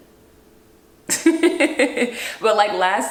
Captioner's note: laughing